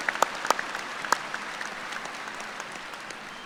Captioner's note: applause